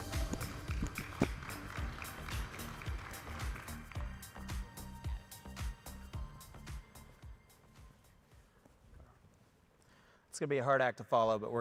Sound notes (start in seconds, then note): 0.0 audience applauding; 0.0 upbeat music